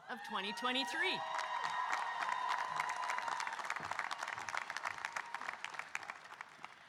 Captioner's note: audience cheering and applauding